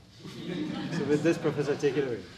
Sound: audience laughs

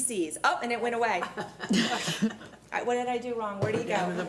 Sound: laughing

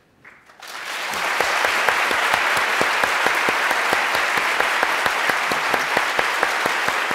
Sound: applause

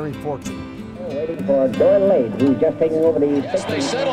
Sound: announcer talking

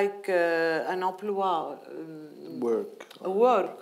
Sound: speaking in foreign language

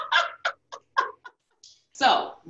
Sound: laughs

